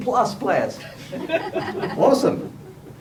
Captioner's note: laughter